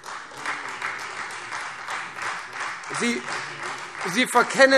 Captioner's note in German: Beifall Freie Demokraten